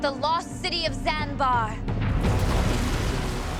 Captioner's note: rumbling, crashing